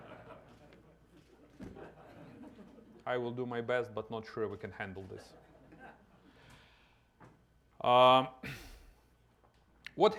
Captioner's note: laughter